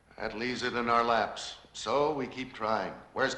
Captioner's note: none